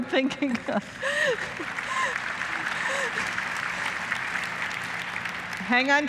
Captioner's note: applause